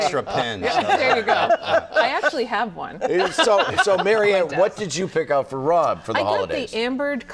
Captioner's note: laughter